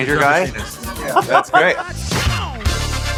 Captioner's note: laughter